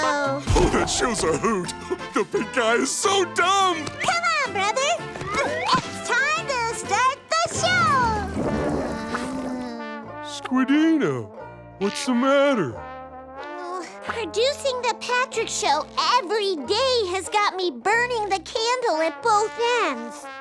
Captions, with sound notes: Oh, that show's a hoot. The pink guy is so dumb. Come on, brother. It's time to start the show. [groaning] Squidina, what's the matter? Oh, producing The Patrick Show every day has got me burning the candle at both ends.